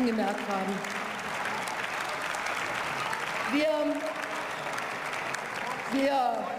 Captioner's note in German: Beifall